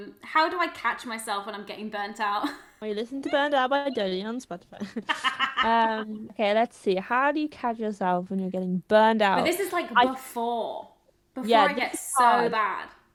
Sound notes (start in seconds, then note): 4.6 laughs